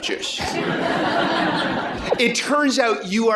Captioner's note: laughter